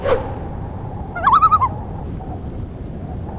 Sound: loon call

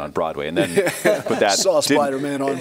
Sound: all laughing

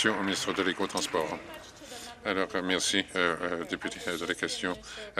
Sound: applause

